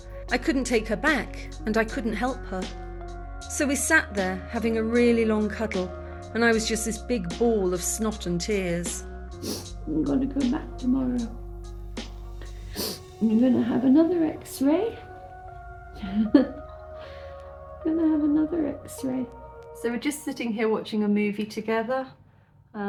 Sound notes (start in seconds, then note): 9.4 sniff; 12.4 sniff; 16.0 laughing at cat lick